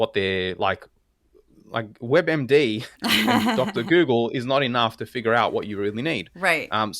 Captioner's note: laugh